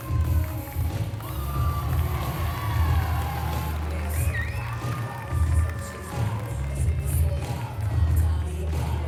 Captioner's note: applause